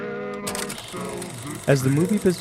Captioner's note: film reel clicking